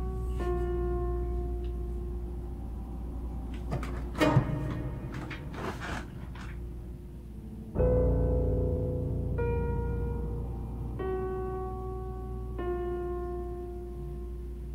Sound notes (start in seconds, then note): 3.3 bed creaking